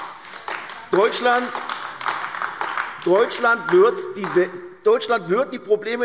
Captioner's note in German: Beifall AfD